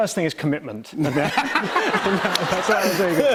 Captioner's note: laughter